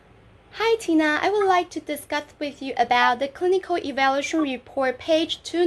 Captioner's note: conversation